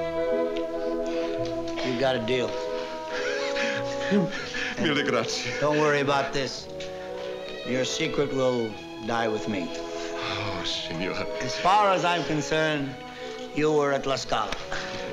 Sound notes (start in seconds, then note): 3.6 speaking italian; 10.4 italian